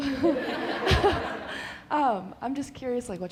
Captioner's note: laughter